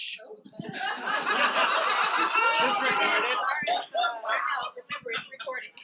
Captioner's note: participants laughing